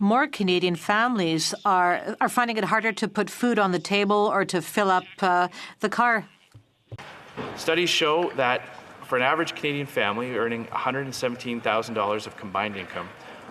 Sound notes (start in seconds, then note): 1.2 speaking French